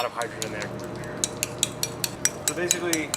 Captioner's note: tapping